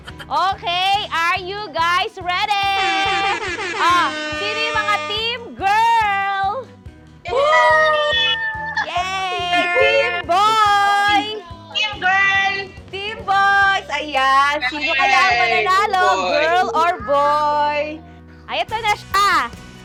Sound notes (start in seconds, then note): 7.2 cheering